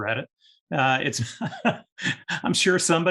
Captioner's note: laughs